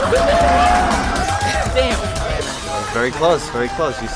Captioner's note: cheering